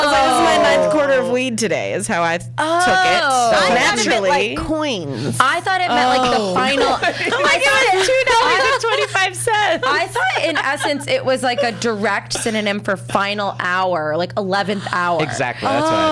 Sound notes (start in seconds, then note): 0.0 group ohs; 7.3 laughs